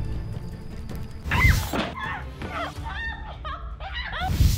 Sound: screams

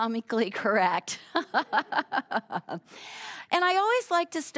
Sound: all laughing

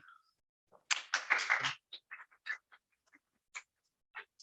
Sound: applause

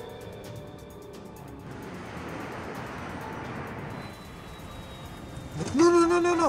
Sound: quiet dramatic music; engine humming

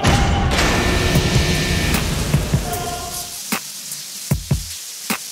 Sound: bell buzzing; upbeat music

